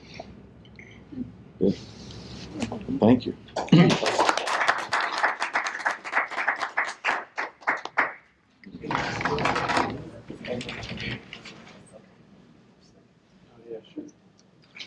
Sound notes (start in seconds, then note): 3.7 applause